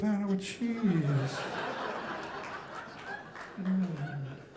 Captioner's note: audience laughing